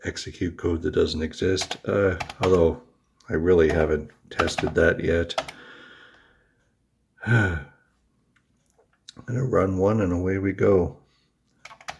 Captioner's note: huffs